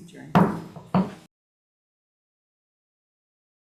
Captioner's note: gavel banging